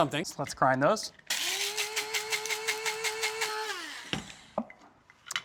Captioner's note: machine whirring